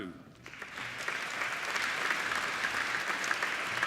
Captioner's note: applauding